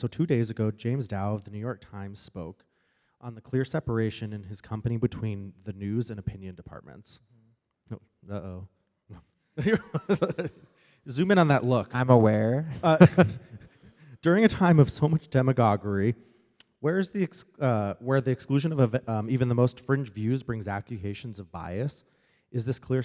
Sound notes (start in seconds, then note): 9.6 they laugh